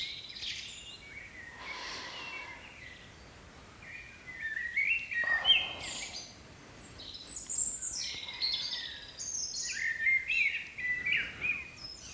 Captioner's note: breathing